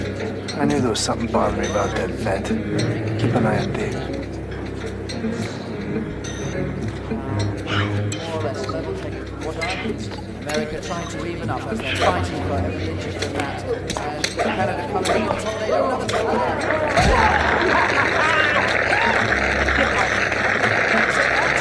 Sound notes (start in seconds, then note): 4.9 Arthur speaking in distance; 4.9 ominous ambient music; 16.8 crowd applauds; 16.8 laughs